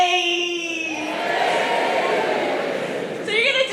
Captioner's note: crowd ayy-ing